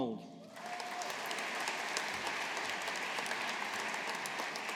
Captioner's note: audience applauding